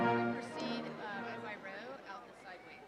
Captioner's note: people chattering